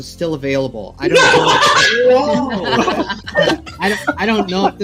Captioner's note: laughing